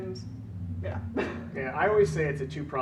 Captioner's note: laughing